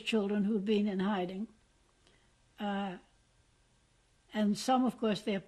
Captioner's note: pauses for 3 seconds